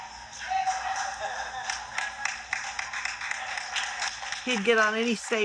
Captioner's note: audience applauding